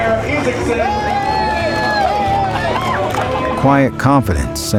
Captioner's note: cheering